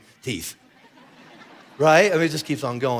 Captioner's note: congregation laughing